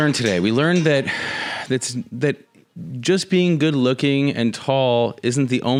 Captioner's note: sighs